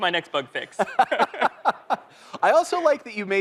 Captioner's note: laughter